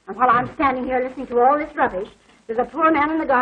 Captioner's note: sighs